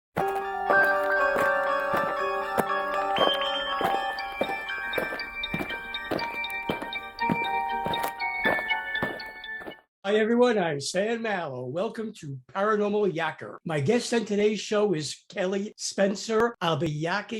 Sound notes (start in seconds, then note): 0.1 alien footsteps; 0.2 eerie music